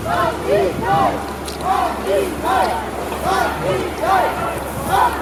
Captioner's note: protesters chanting the chorus